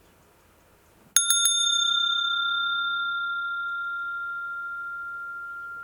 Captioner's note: sound of the bell